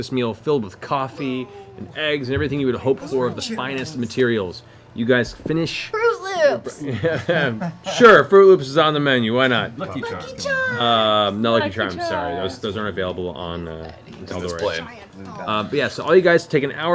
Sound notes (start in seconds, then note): 6.6 laughs